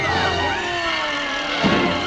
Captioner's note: screaming